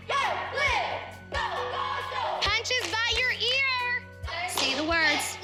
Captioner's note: all chanting